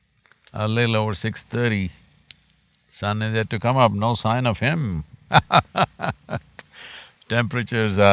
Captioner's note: laughs